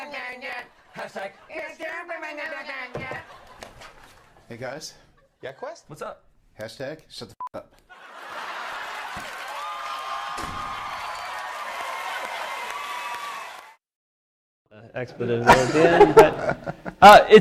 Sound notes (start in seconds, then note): 7.9 laughter; 8.0 cheering